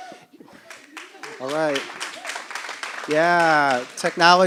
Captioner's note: applause